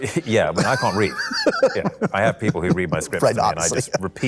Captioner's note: laughs